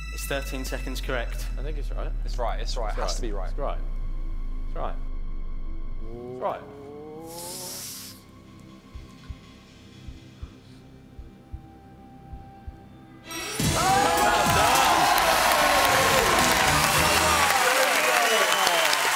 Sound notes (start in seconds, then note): 5.5 sinister music; 13.4 cheering